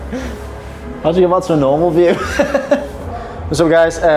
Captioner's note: laughs